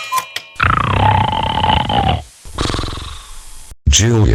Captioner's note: snoring